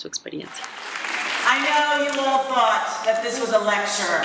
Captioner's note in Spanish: aplausos